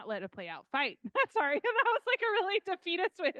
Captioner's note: laughing